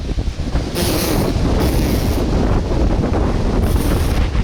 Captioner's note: wind blowing